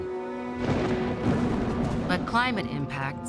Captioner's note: thunder crackling